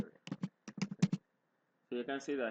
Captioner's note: typing